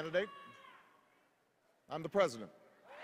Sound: extended cheers and applause

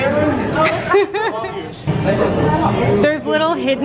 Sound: laughing

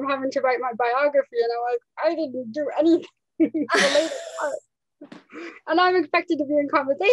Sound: laughs

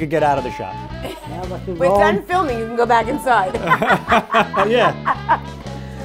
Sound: laughter

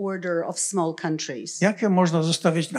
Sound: foreign language

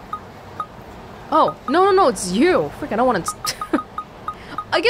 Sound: chuckles

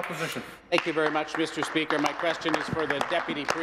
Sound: applause

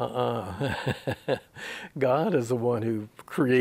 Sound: he laughs

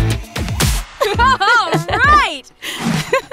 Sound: all laugh

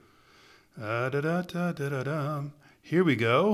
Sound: humming a tune

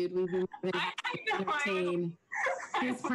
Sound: chuckles

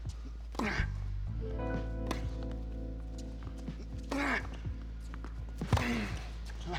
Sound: calm slow music; players grunting; rackets smacking

